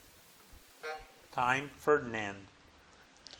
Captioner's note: buzzer buzzing